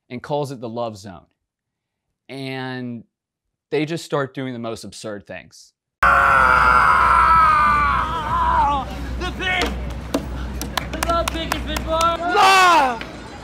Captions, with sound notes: and calls it the love zone. And they just start doing the most absurd things. - (screams) The thing. The love thing is before us. Love, love.